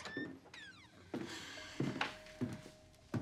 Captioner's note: sighs